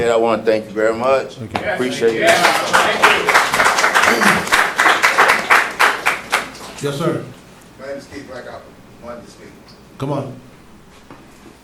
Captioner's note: applause